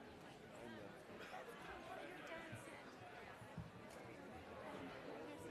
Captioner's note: crowd talking in background